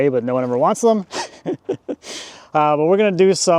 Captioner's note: laughing